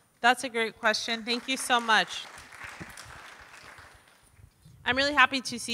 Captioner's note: audience applauding